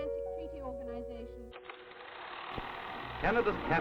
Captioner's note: film reel whirring